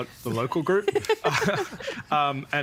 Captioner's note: laughing